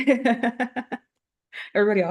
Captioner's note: chuckling